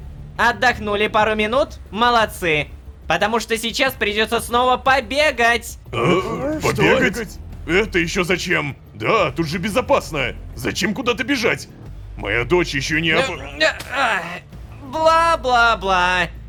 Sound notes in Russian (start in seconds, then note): 5.9 Удивление толпы